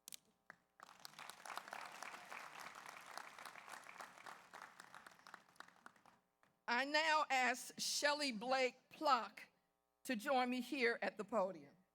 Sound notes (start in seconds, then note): 0.8 audience applauds